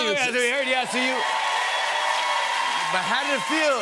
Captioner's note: cheers and applause